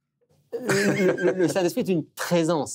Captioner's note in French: rire